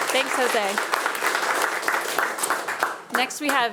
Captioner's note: attendees applauding